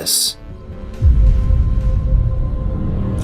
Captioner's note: boom